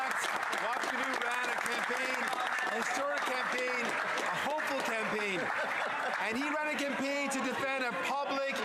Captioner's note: some Applause